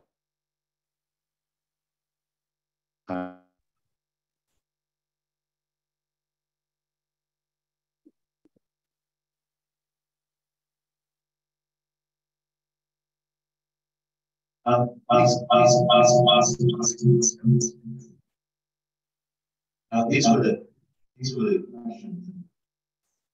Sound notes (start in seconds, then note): 0.1 audio muted; 14.6 audio distortion; 23.1 audio muted